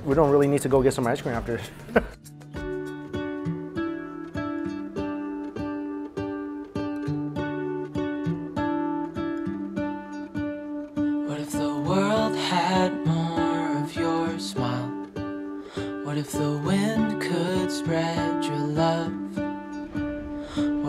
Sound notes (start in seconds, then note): 1.7 chuckles; 2.8 soft guitar music